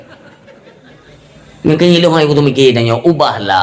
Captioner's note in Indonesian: tertawa